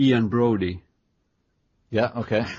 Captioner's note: chuckle